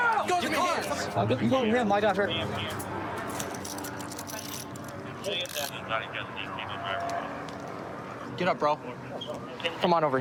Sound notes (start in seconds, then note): 4.1 dispatch chatter